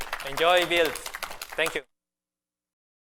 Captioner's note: applause